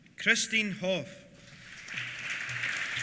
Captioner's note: applause